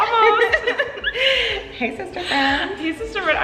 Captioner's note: laughing